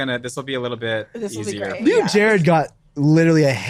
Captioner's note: laughing